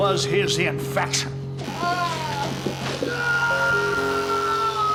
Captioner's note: screams